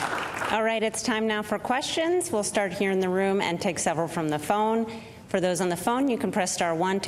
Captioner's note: applause